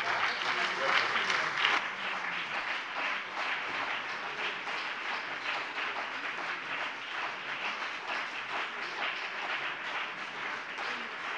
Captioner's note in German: Beifall BÜNDNIS 90/DIE GRÜNEN und CDU